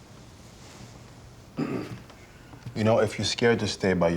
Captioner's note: clears throat